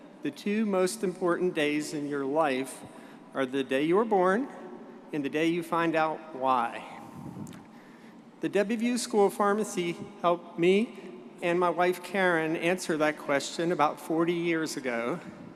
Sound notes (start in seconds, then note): none